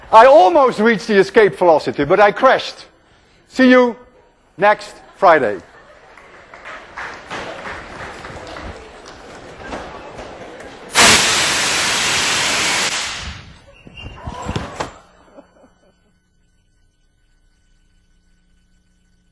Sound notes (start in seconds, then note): 4.8 laughter and scattered applause; 11.0 more whooshing